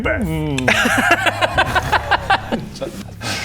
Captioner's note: superstitious laughter